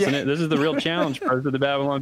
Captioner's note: laughter